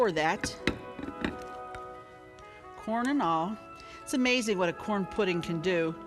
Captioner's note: batter pours